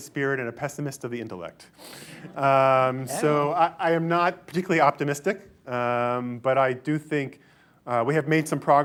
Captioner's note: laughter